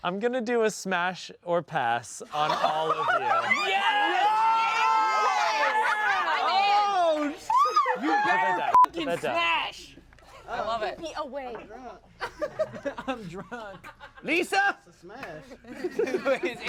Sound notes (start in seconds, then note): 2.3 everyone yells and laughs; 8.7 beep